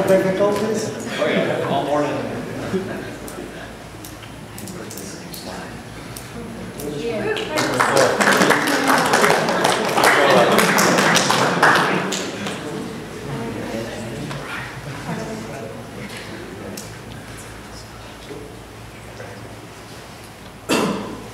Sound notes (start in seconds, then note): 7.3 applause